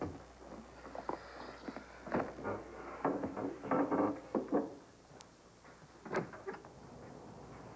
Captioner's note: knock on door